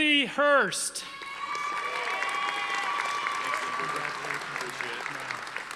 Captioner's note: audience applauding